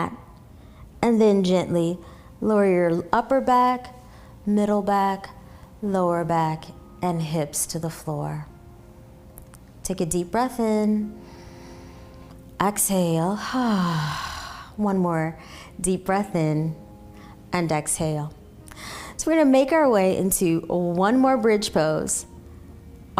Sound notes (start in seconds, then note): 11.2 exhaling; 11.2 inhaling